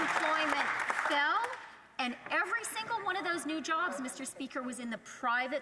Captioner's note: some Applause